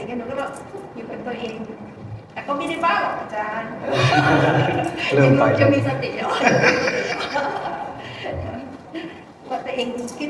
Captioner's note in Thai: เสียงหัวเราะ